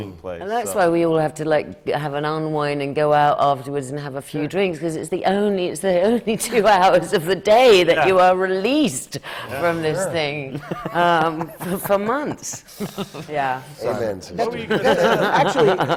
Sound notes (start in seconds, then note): 5.4 laughs; 10.5 laughter from the panel; 14.6 laughs